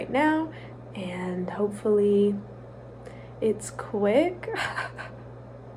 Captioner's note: laughs